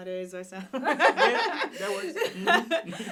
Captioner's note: group laughing